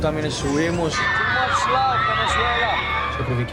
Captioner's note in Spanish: en inglés